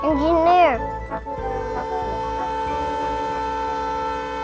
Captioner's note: train hoots